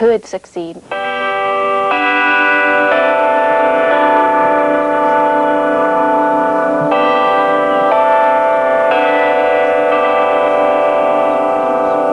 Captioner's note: bell tolling